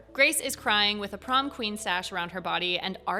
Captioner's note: none